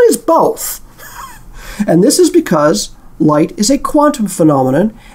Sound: laugh

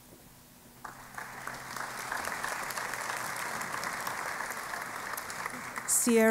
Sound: applause

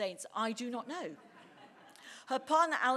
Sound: audience laughing

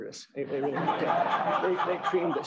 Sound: laughter

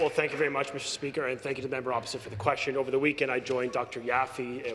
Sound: some Applause

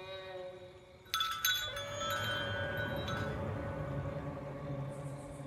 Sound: chimes clinging

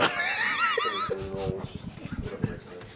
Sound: laughs

